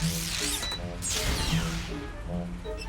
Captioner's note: beeps